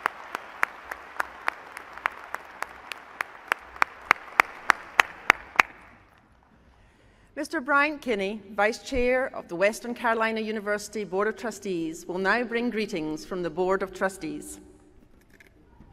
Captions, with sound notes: Please join me in recognizing these institutional leaders. >>: [Applause.] >>: Mr. Brian Kenny Vice Chair of the Western Carolina University Board of Trustees